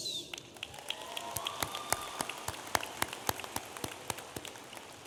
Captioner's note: audience applauding